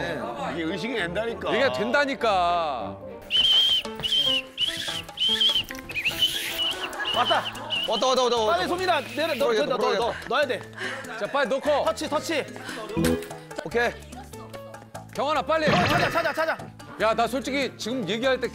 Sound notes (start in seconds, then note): 5.6 So Min rushes in, blowing the whistle